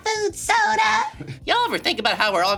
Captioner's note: chuckles